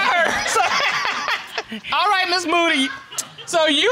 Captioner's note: laughing